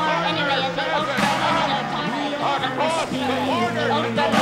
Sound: political voices shouting

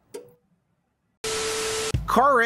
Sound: Static

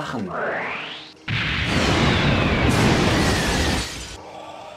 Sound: explosion

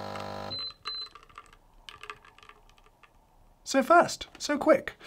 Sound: machine beeping

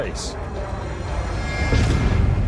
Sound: meteor roaring

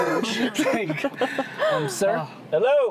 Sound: laughing

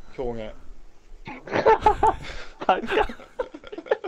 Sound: laughing unknowingly

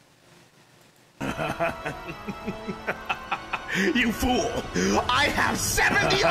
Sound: laughing; laughing

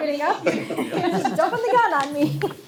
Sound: all laugh

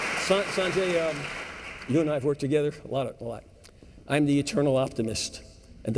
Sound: applause and cheers

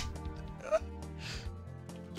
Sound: slight whimper

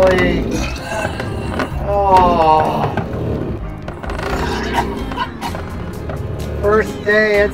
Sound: throwing up

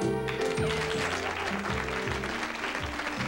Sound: applause

